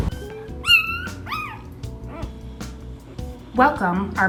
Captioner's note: puppy whimpers